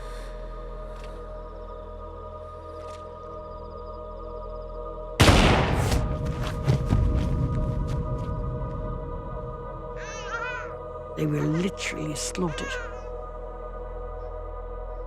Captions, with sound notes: (solemn music) (gun firing) (baby crying) - They were literally slaughtered.